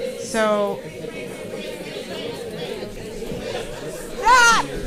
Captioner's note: paper crinkling and audience chattering